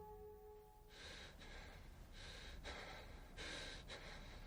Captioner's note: heavy breathing